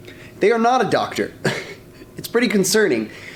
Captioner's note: laughs